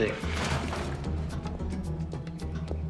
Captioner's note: clattering